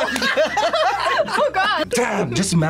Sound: both laugh

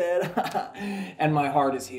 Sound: laughs

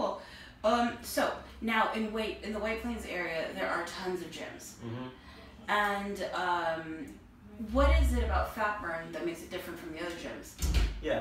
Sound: ahh

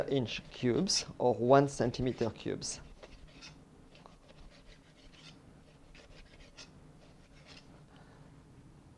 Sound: cutting sounds

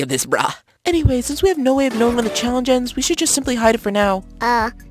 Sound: triumphant Sound

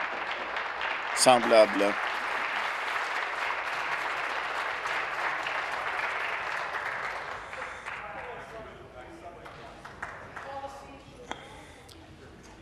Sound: applause

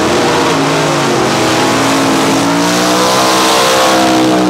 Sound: gasser drag racing burnouts

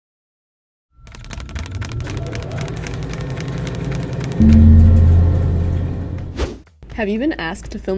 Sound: typing Sound EFX

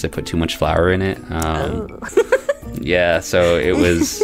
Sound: laughter

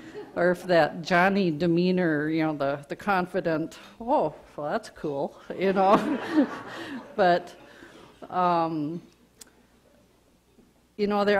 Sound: audience laughter

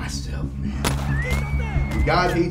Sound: gun firing

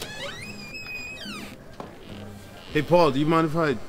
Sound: door creaking open

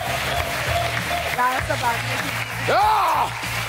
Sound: yells

